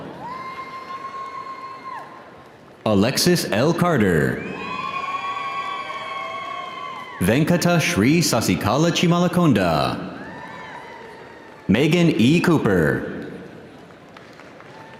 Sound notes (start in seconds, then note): 4.2 audience cheering; 4.8 audience applauding